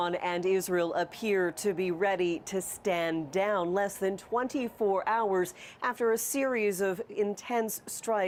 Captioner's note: sirens